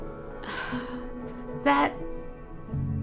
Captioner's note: sighs